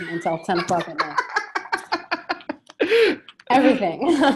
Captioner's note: laughing